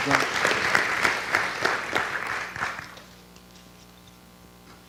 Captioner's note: audience clapping